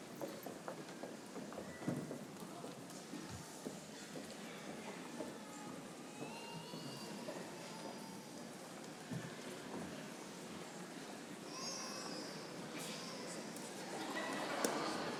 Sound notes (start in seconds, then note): 4.8 audience chattering